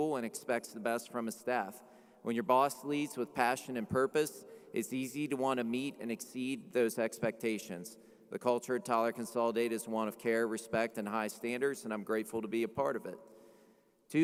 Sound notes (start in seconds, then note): none